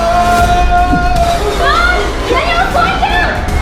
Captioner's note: shouting; suspenseful music